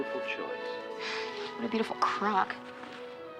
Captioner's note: sighs